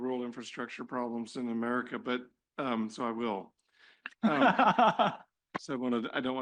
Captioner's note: laughter